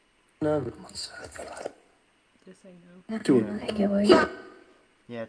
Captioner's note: whispering